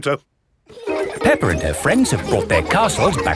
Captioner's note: children laughing